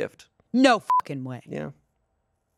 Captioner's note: beep